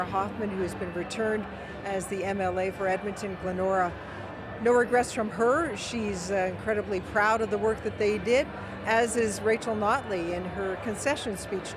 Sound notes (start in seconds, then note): none